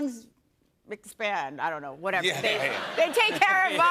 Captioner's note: laughter